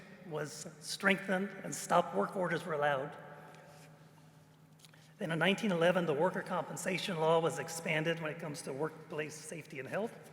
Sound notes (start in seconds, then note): none